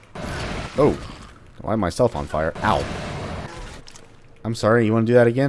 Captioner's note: moar Fwoosh; fwoosh